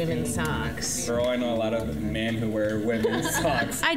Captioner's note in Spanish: Risas